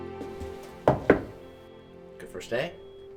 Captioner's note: hand knocking